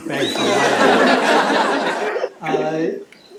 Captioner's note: laughter